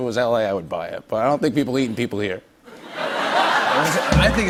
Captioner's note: laughter